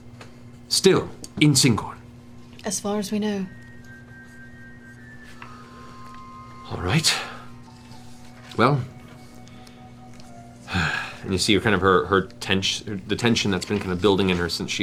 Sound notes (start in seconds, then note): 6.4 sighs